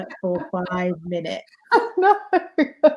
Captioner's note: laughs